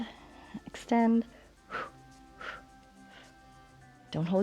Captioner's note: short exhales